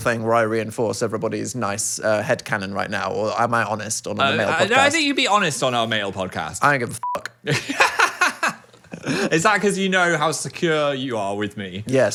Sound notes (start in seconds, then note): 7.0 beep; 7.5 laughs